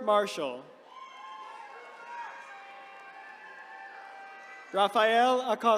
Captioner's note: attendees cheering